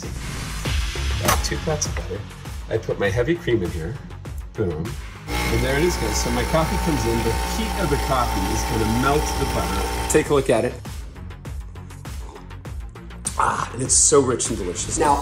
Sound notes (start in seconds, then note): 5.2 machine humming